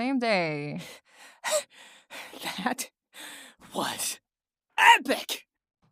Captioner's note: breathing hard